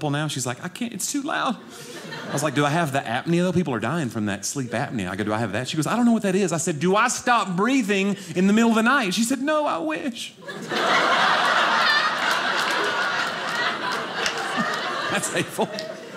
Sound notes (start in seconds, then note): 10.4 audience laughing